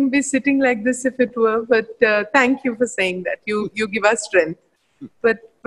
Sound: Sadhguru laughs

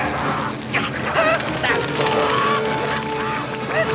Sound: grunting, growling

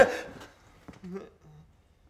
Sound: makes nervous sounds

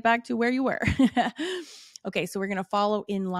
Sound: laughs

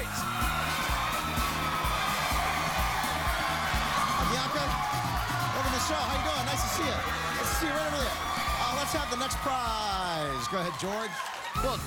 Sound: cheers and applause

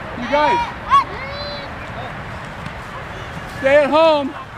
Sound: audience yelling

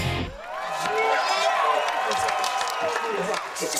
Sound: cheering

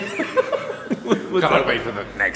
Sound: laughs

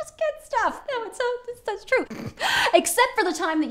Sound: scoffs

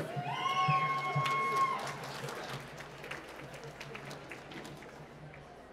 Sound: cheering and applause

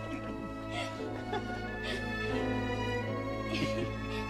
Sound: laughs; both laughing

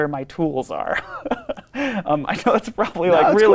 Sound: laughs

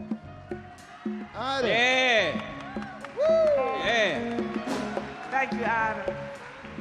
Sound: audience cheer and clap

